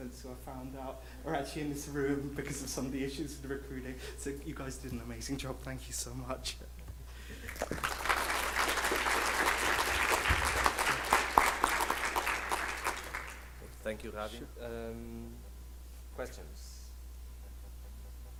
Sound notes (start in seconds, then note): 7.4 audience applause